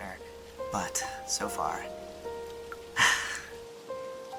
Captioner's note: deep sigh